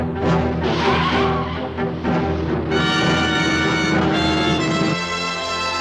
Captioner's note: car engine - tense music; tense music